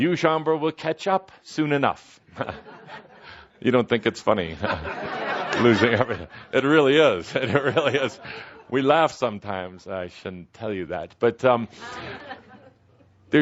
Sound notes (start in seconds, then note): 4.5 laughter; 7.2 Kuthumi laughing